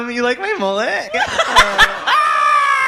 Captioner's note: laughter